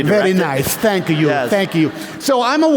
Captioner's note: laughter